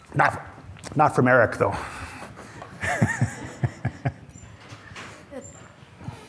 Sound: laughs

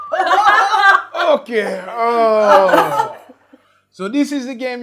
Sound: groans

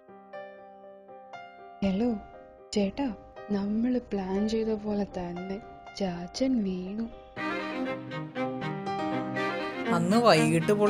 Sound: phone Call

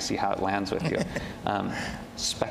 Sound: laughs

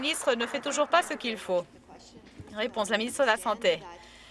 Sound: some Applause

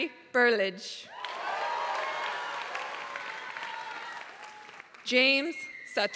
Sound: applause

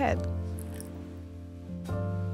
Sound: almond extract pouring; soft jazzy music continues

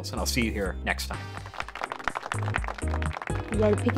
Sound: applause

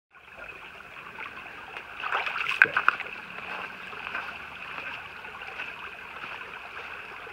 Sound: sound of running water

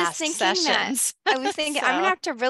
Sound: laughs

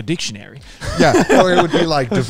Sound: everyone laughs

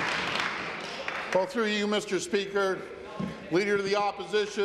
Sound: applause

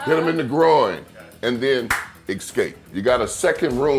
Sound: claps

